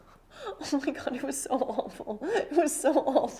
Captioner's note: laughs